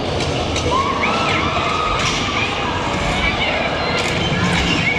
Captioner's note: people screaming